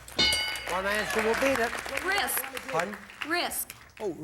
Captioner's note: audience applauding